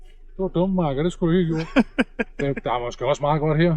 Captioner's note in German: Lachen